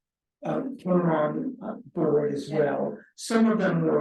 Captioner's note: speaking faintly